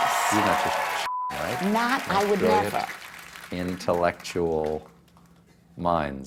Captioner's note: applause